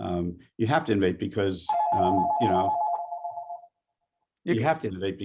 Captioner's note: telephone ringing